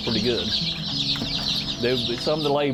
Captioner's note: chicks chirping